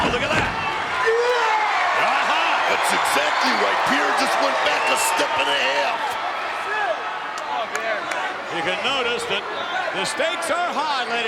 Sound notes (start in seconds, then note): 0.9 wrestler yelling